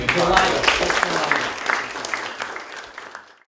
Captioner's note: group applauding